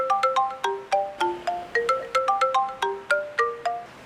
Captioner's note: alarm clock rings